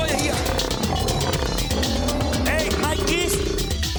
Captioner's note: growling